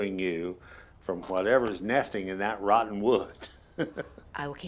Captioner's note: laughs